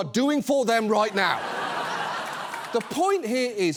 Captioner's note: audience laughs